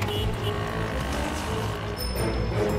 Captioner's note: bicycle bell rings